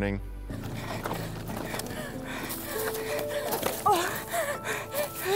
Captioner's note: breathing heavily